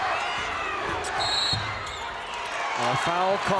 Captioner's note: whistle blows